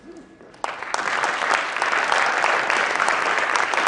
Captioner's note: applause